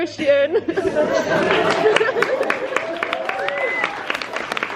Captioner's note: crowd cheers, despite crying themselves